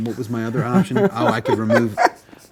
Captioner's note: laughs